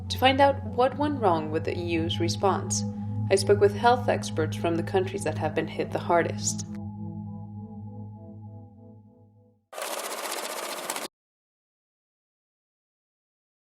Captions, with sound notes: To find out what went wrong with the EU's response I spoke with health experts from the countries that have been hit the hardest. [numbers ticking]